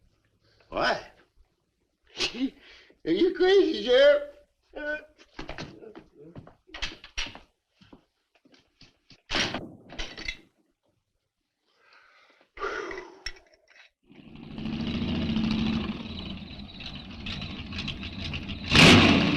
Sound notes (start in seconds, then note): 2.1 scoffs; 11.8 sheriff gasps; 14.1 engine rumbles; 14.9 insects chirping